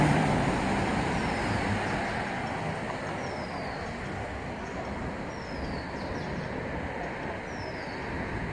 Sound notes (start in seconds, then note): 3.8 birds chirp